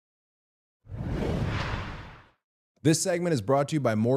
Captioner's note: rushing sound plays